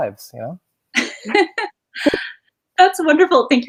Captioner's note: laughing